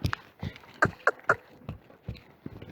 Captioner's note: cluck